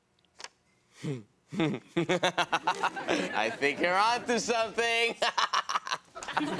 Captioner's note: laughs